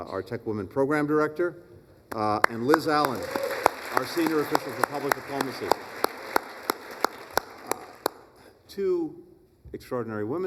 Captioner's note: applause